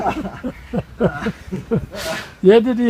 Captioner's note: laughter